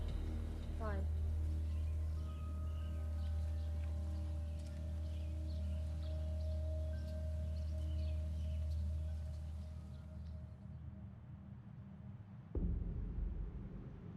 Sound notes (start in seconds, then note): 3.2 birds chirping; 3.2 soft melodic music